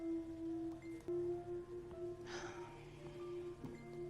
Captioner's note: chiming